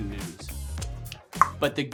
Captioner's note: clicks tongue